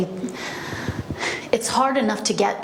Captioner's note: sighs heavily